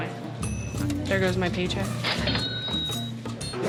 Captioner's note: cash register dings